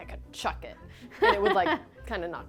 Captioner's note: laughs